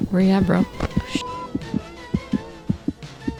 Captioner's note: radio turns on